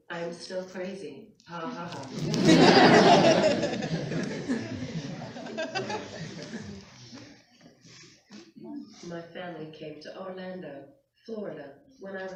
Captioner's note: laughter; laughter